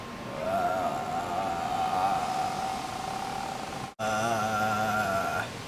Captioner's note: moan